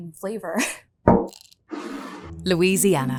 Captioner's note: bottle thuds and scrapes